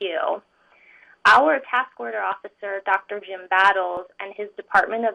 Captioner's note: slurred